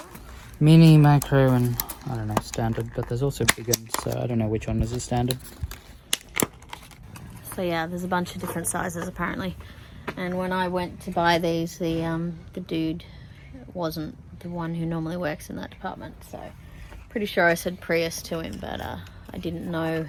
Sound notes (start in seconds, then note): 6.6 packets crack